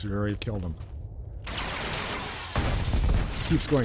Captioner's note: gun firing